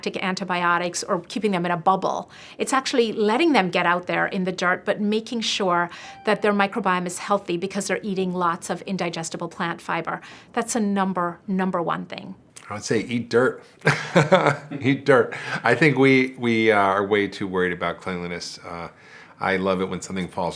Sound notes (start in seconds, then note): 13.8 laughs